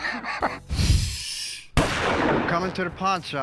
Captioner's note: gunshot sound